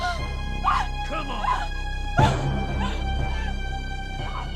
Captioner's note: Nellie screams